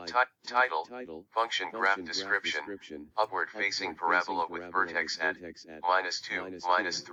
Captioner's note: text-to-speech reader- reads the alt text